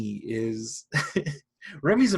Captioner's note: chuckles